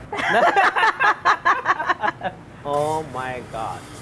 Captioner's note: both laugh